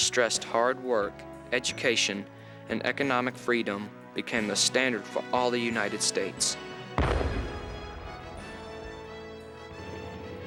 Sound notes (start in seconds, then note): 7.0 explosion